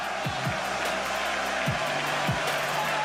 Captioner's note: cheers